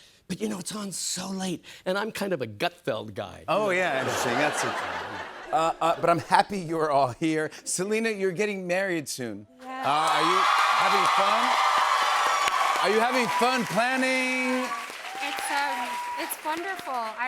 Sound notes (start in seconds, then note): 3.9 laughter; 11.0 cheers and applause